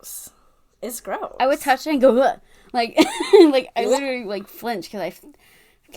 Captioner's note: laughing; gagging noise